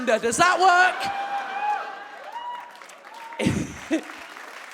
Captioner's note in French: le public s'exclame et applaudit